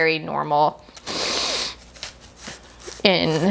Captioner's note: blows nose